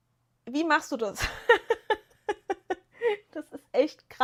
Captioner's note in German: gelächter